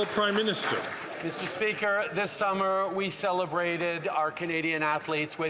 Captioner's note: some Applause